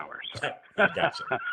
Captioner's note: laughter